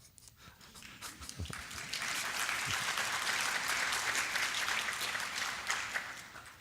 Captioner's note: laughs; applause